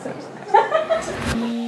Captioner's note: laughing